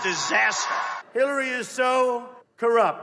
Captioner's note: cheering